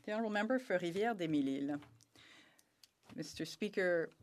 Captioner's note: speaking French